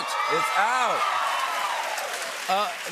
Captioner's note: cheers and applause